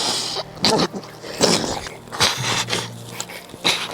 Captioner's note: orc gurgles